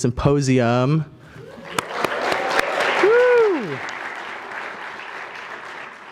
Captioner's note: applause